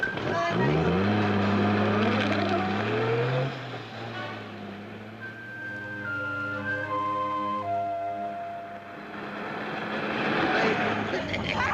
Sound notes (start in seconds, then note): 2.3 car revving; 7.8 pensive music; 10.7 car revving